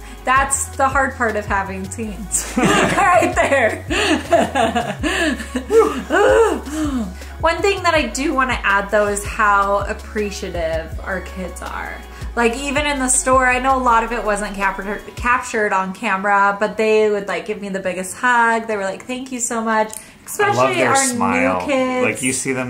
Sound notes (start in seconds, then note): 2.4 laughs; 4.8 groans